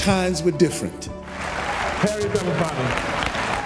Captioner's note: audience applauding